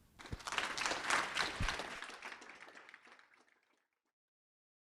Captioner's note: audience applauding